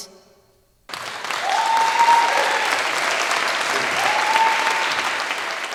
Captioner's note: audience claps and cheers